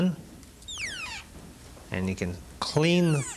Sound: fibers squeaking

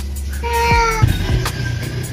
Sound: Mapa Meowing

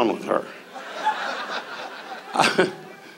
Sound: audience laughs; Don laughs

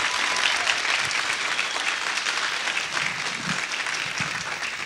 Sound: audience applauding

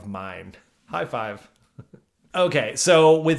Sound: chuckles

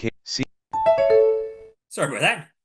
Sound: tone

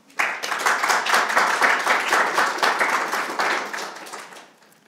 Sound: audience clapping

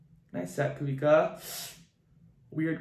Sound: hisses

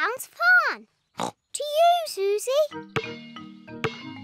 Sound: snorts

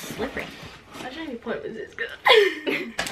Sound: laughs

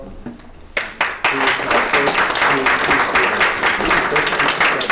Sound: applause

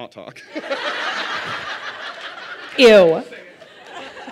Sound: laughter

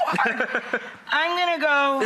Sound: laughs

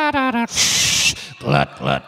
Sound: making whistling noise

